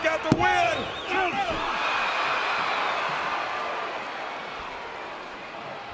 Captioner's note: audience cheering